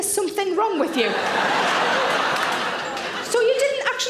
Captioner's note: audience laughing